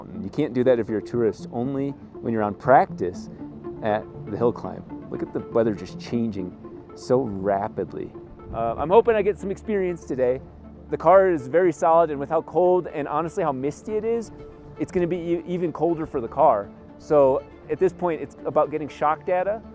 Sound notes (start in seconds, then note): none